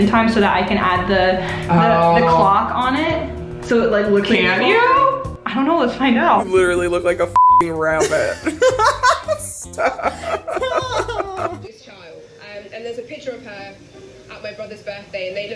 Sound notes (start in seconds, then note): 7.3 beep; 7.8 laughs